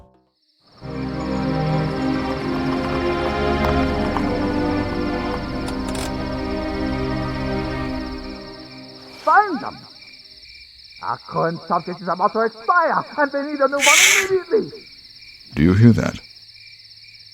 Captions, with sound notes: [dramatic music] [car brake] [distant shouting] Our current subject is about to expire and we need a new one immediately! Shh. Do you hear that?